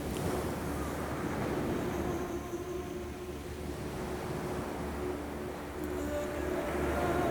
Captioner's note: waves crashing; ethereal music